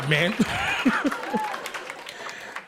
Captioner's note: laughs